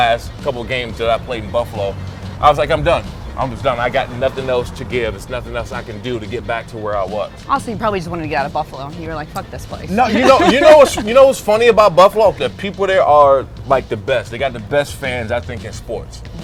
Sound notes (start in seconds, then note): 9.9 laughs